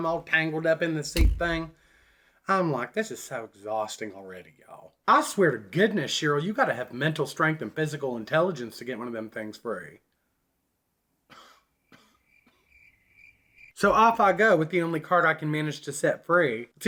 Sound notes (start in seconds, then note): 11.3 man coughs; 12.2 crickets chirping